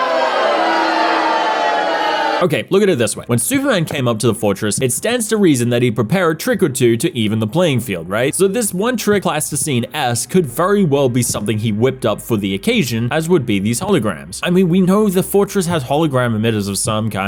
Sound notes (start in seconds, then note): 0.0 boos aplenty